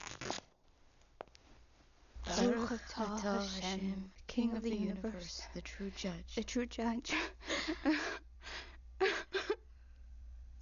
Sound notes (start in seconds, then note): 7.3 sobbing